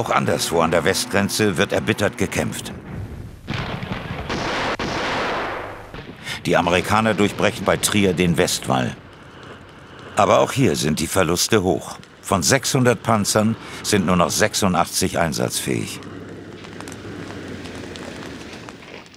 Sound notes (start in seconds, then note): 16.3 Knistern